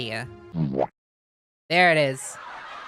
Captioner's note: Spongebob Boowomp; sitcom laughter